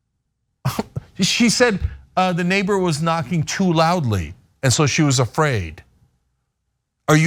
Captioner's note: laugh